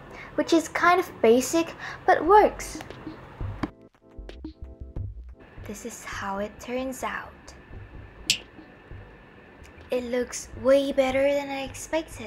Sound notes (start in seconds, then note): 8.3 finger's snap